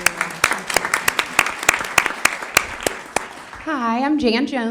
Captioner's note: applause